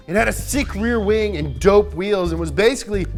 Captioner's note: electric ring